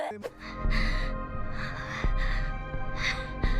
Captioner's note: nervous heart throbbing